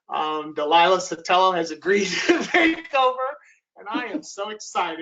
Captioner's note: laughs